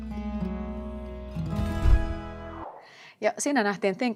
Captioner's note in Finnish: tehosteääni